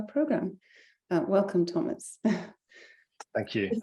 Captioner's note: chuckling